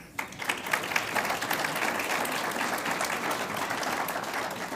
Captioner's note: audience applauds